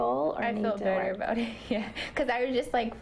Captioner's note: laughter